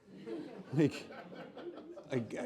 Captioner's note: laughs